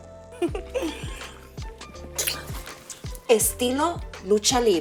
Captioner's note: ríe